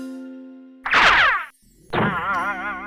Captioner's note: object boings; object whooshes